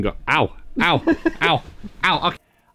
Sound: laughs

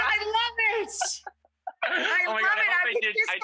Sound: laughing

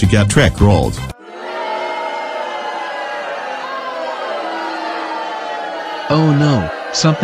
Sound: audience booing

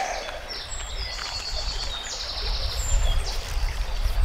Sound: birds chirping

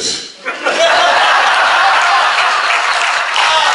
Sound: class laughs

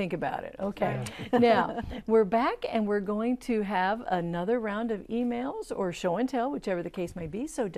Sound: laughing

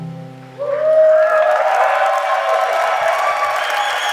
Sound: clapping and cheering

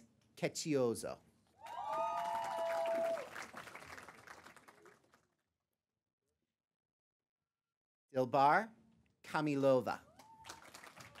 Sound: applause; applause

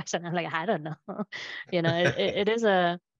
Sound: laughs

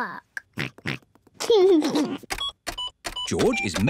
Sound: computer beeping; oinks and giggles

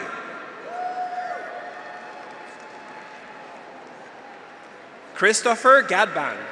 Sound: graduates cheer; audience applauds

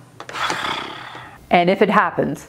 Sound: exhaling loudly

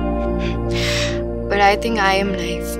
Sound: both chuckle

